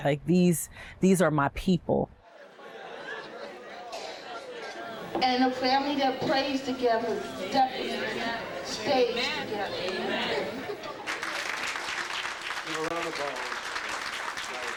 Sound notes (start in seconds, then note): 1.9 crowd chatter; 9.9 crowd; 11.0 applause